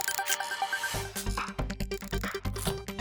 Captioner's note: shutter sound